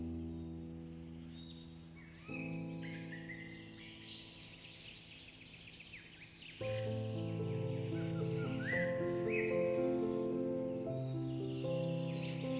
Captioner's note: soft nature sounds, birds chirping